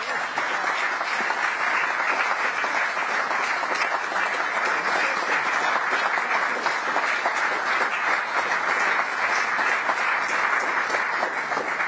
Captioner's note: applause